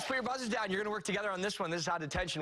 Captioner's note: cheers and applause